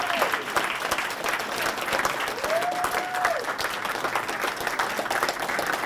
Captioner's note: applause